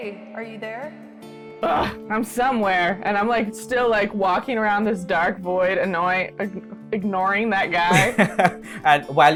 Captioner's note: laughter